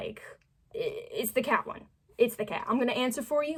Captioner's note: stammering